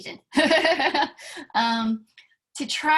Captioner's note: laughter